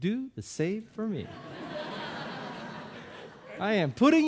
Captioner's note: audience laughing